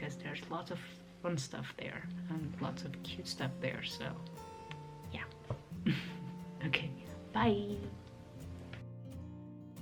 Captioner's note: giggles & waves